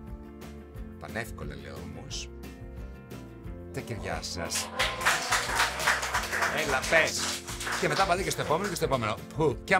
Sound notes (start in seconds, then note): 4.4 applause